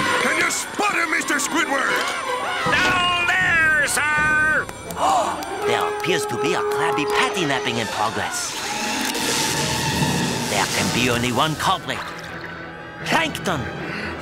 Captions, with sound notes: Can you spot 'er, Mr. Squidward? Down there, sir! [gasping] There appears to be a Krabby Patty-napping in progress. There could be only one culpri. Plankton!